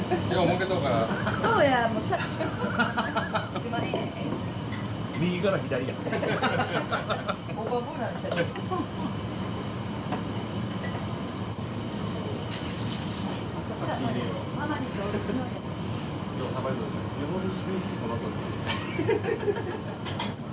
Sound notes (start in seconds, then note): 0.0 laughs; 1.1 laughter; 6.0 laughter